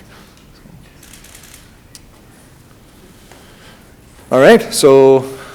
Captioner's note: camera shutter clicking